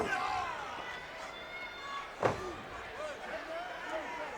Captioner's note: audience cheers